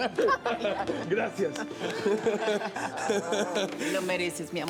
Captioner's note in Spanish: Risas